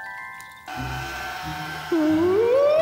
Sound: creak

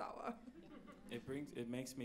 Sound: audience laughs

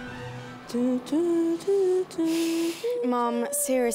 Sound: hums theme

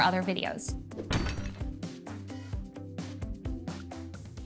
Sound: logo clunks

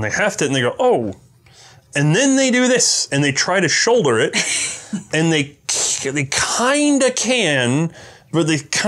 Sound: chuckles

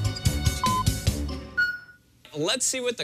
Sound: electronic beeping

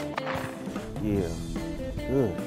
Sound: upbeat jazz music; shot goes off

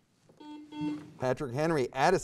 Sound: buzzer beeps

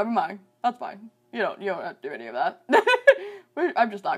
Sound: chuckles

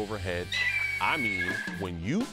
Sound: eagle squawks

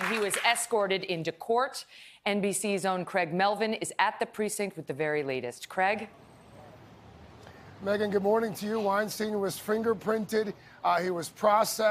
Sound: applause

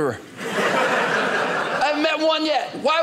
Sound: audience laughing

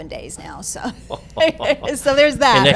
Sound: laughing

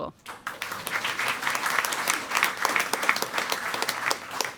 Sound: audience applauding

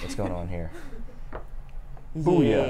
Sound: laughs

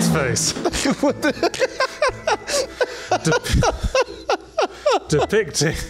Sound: laughs

